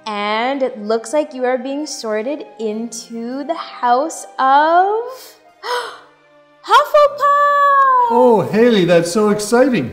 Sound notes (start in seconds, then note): 5.6 gasps